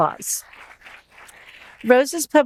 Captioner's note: audience applauding